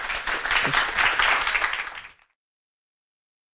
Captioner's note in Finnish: Aplodeja